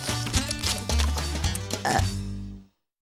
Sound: kid burps

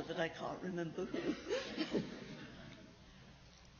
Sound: laughs

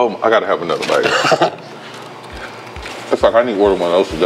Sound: laughing

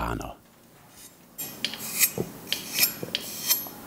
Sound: metal sharpening

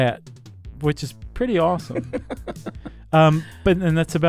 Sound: laughs

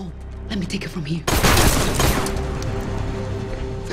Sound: gunshots

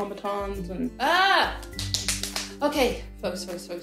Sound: rapid clapping

